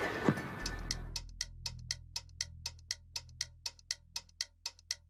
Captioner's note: clock ticking